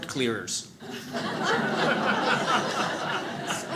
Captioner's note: audience laughs